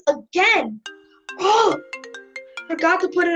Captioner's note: phone rings